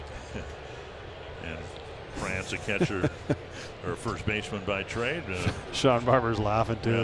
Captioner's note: laughs